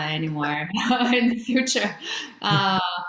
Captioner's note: laughs